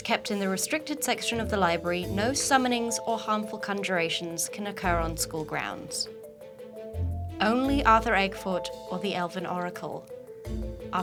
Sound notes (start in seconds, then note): none